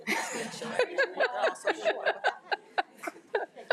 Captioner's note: attendees laugh